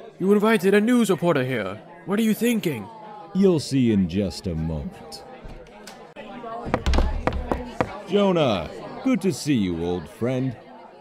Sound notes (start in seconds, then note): 6.6 footsteps; 6.7 door opening; 6.7 door closing